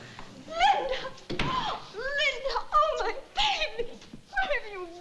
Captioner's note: gasps